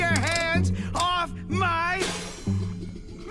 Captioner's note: crash